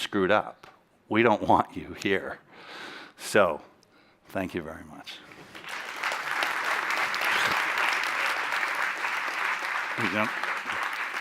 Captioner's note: applause